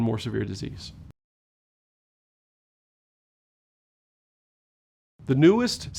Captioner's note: no audio